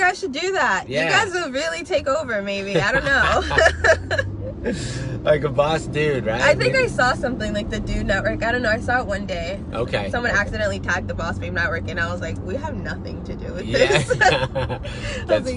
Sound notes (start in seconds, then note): 2.7 both laughing; 13.7 both laughing